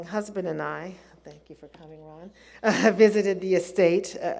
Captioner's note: laughs